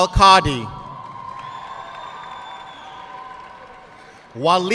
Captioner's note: audience cheering and applauding